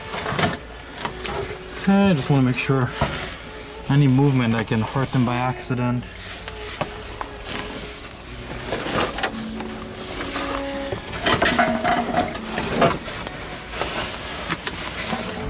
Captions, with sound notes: Okay, I just want to make sure, any movement I can hurt them by accident. [Clanging]